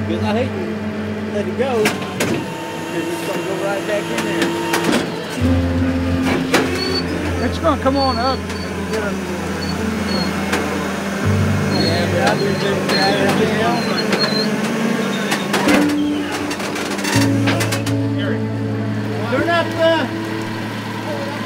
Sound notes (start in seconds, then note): 5.5 solemn music; 9.7 machinery squealing; 16.9 solemn music